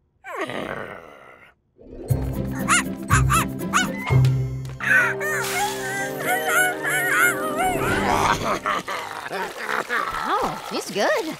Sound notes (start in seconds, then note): 3.7 barking; 4.8 crying, whimpering